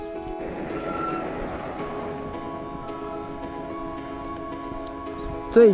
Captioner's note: sound of motorcycles on the road